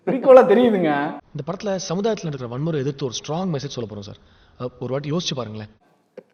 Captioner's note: movie dialogue playing